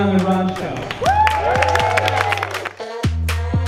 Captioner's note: audience applause; upbeat music